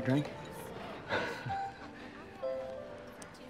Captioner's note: laughs